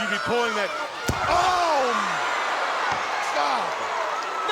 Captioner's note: crowd cheering